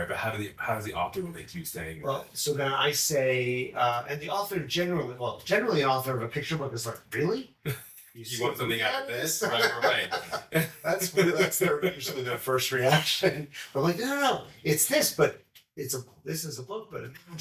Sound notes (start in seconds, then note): 7.7 chuckles; 9.3 laughs